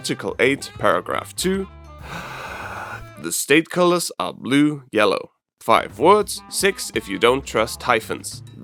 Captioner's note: deep breath